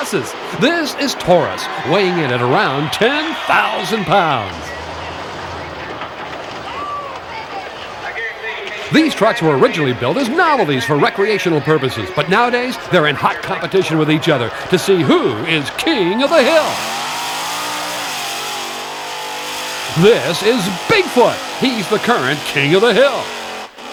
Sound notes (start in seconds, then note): 4.8 metal crumples; 5.1 engine roars; 16.9 engine revs